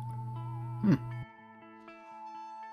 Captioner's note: french mmh